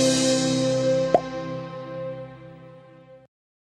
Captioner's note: logo pops